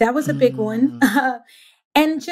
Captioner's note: laughs